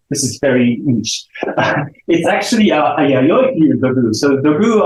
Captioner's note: chuckles